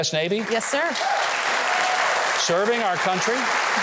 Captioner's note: audience applaud